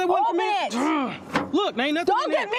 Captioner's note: groans